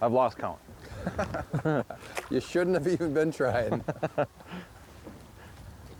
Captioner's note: laughing